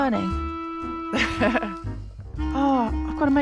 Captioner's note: chuckles